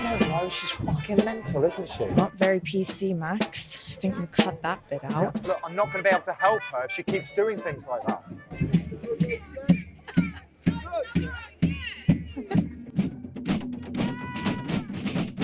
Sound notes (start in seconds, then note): 7.0 people chattering; 8.4 lively music